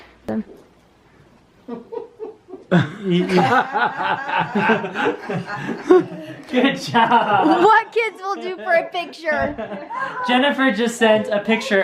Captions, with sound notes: (all laughing) - Good job! - What kids will do for a picture! - Jennifer just sent a picture of